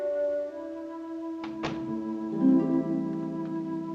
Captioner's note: door closing